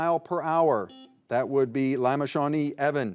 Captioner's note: buzzer buzzing